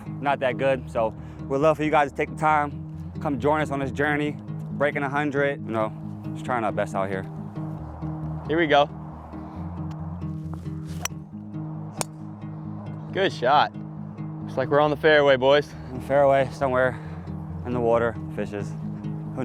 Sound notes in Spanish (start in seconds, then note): 9.4 continúa la música tranquila; 10.8 el palo golpea la bola